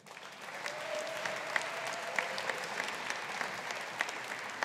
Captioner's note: audience applauding